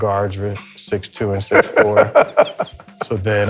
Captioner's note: laughs